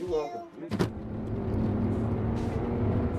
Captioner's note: car doors shut; car accelerating